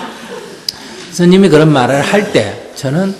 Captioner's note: Sunim/Audience Laughter